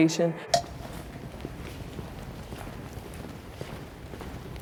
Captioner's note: feet clomping